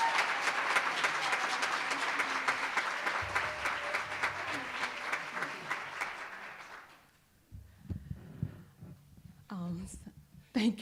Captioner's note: cheering and applause